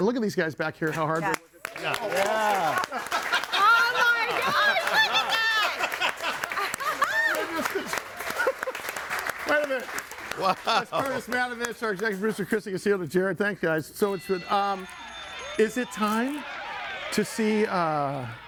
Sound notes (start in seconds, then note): 1.7 audience applauding; 3.0 laughing; 5.7 laughing